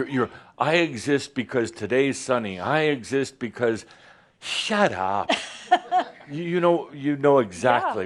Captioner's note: she chuckles